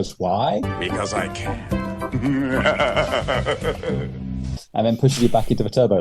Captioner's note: maniacal laughter